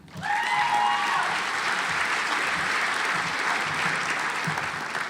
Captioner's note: audience applauds